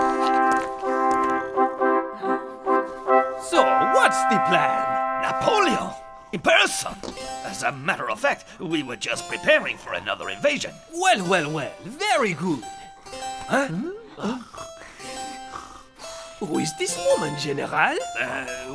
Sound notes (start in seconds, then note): 0.2 dramatic music; 13.4 witch snoring